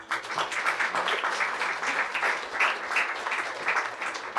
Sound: audience applauds

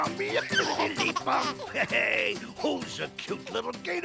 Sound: Buzzy crying

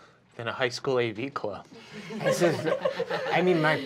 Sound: laughing

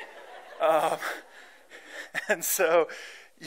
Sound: laughter

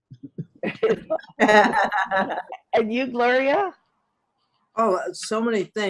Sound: all laughing

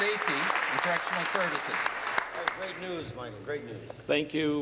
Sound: applause

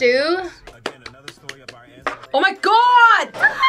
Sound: claps

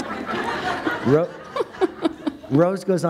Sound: laughter

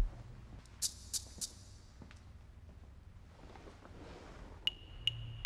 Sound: light intermittent rattling

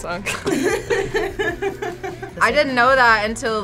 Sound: React laughs

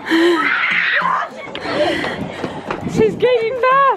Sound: fast panting; screaming

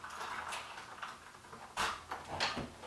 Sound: key sounds; door opens and closes

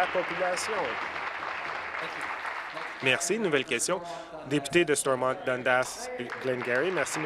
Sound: applause

